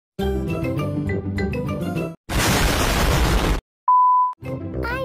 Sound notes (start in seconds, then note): 2.3 explosion